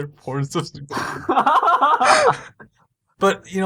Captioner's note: cute laughter omg